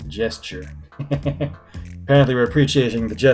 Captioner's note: laughs